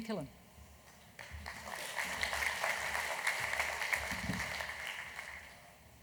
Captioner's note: audience clapping